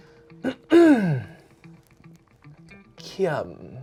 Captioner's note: clears throat